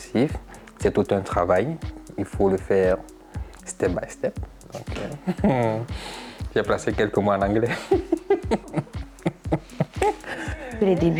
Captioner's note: laughs